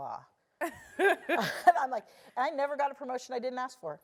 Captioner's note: laugh